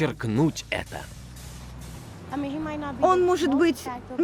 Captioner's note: air hissing